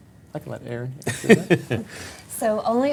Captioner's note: laughing